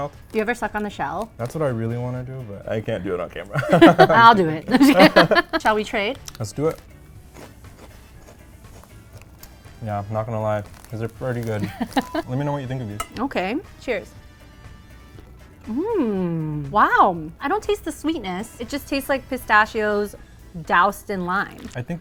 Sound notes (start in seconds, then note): 3.5 both laugh; 7.2 Cheetos crunching; 11.6 laughs